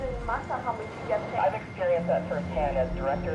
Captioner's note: woman On Radio